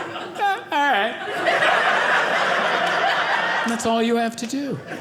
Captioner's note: audience laughing